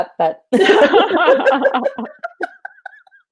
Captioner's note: laughing